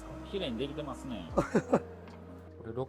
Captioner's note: laugh